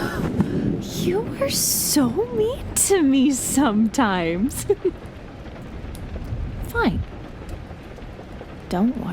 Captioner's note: still, she laughs